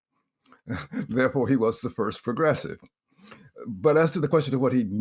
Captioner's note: laughs